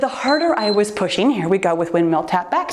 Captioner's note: timer beeps